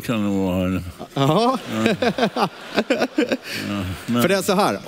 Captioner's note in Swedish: skrattar